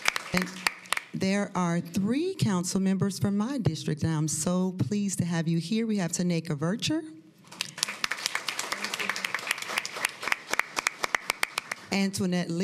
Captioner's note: applause